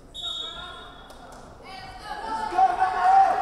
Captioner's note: whistle blowing